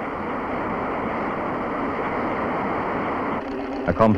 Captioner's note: sound of gushing water